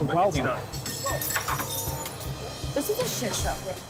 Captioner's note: glass shattering